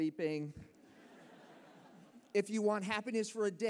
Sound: laughter

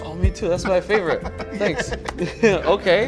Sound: laughs

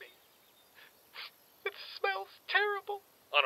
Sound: sniffle

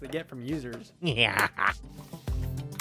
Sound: evil laugh

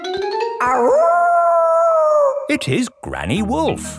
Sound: kids yelling; howling

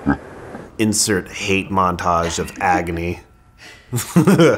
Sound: laughs

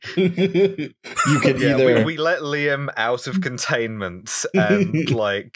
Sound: laughter; laughter

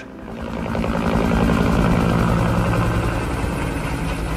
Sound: blades chopping

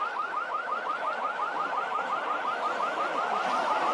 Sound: car alarm blaring

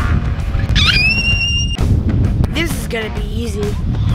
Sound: blond girl screams

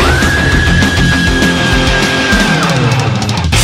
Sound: screams; dark heavy metal music

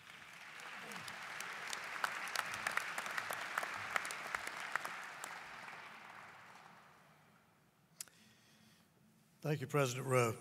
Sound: applause

